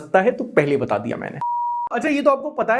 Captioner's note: beep